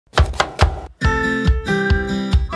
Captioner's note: chopping and music